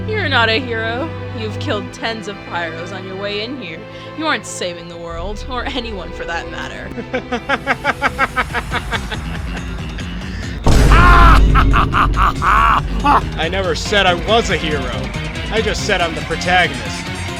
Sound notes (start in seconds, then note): 7.0 laughing